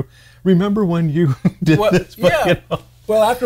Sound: laughs

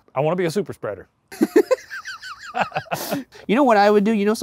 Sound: laughing

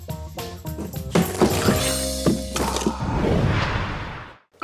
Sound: crashing; whooshing

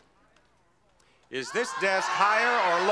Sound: audience yelling

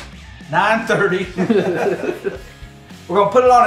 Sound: laughing

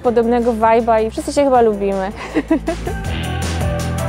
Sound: laughs

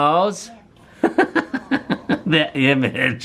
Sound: laughs

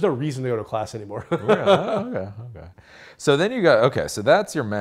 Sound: laughing

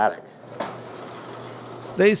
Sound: garage door opening

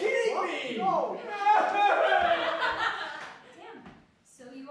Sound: Flash cries

